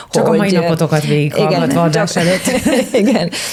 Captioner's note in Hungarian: nevetés